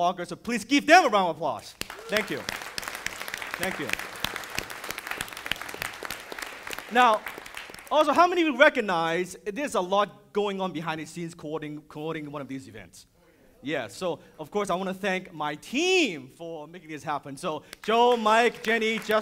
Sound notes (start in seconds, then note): 1.8 audience applauding